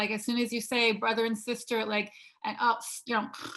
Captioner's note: snoring